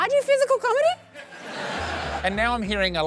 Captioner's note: laughter